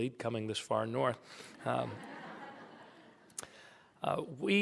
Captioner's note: laughter